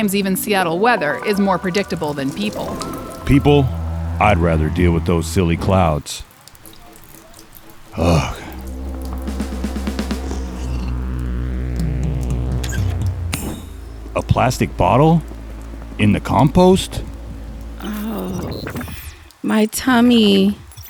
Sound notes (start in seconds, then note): 7.5 rain sound; 9.5 intense drum buildup